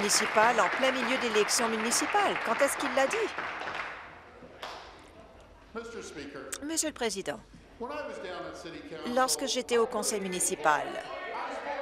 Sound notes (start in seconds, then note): 0.0 applause